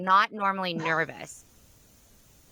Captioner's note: laughs